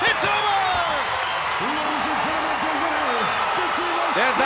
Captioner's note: bell dinging